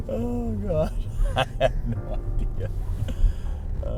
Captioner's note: laughter